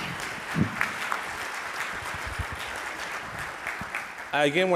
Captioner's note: audience applauds